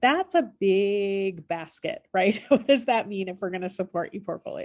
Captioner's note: laughter